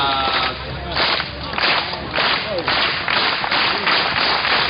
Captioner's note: clapping